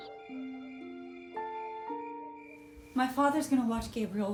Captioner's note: crickets chirping